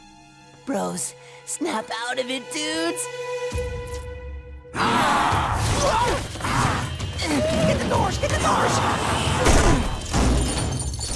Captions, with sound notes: Bros, snap out of it, dudes. [roaring] Get the doors, get the doors! [chains clanking]